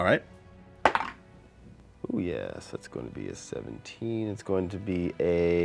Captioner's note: dice roll